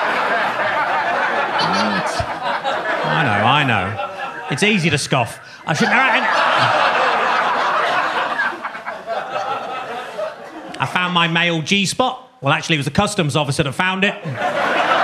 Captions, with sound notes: I know, I know, it's easy to scoff. (audience laughing) I found my male G-spot. Well, actually it was the customs officer that found it.